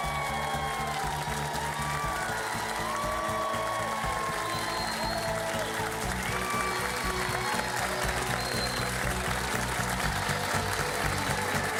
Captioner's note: cheers and applause